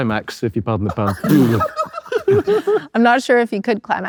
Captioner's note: group laughing